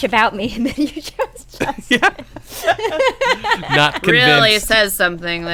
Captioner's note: laughter